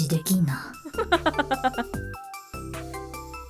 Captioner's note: chuckles